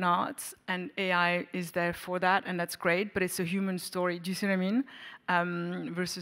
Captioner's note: none